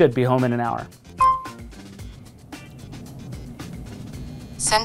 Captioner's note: pin beeping